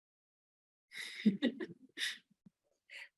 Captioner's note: laughs